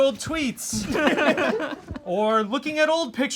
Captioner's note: all laugh